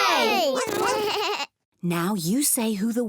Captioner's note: all make animal sounds